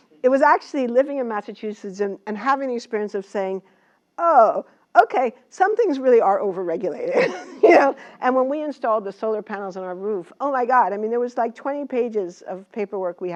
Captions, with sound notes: It was actually living in Massachusetts and having the experience of saying okay, some things really are overregulated. [LAUGH] And when we installed the solar panels on our roof, my God. I mean, there was like 20 pages of